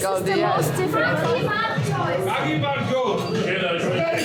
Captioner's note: in Georgian